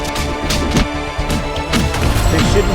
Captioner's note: gunshot blasting